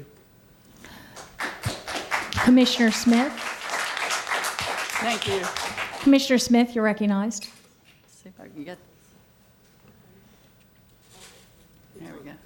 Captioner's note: applause